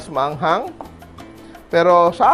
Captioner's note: knock